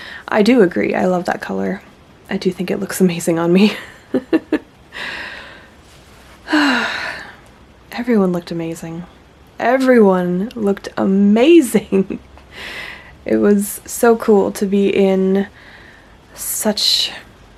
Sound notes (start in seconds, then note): 3.6 laughs; 4.9 one more happy sigh